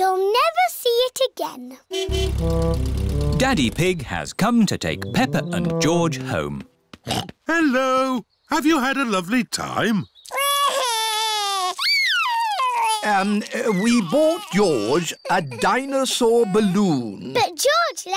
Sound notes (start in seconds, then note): 1.9 horn honking; 7.0 snorts; 10.9 wails